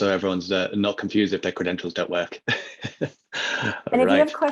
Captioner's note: laughs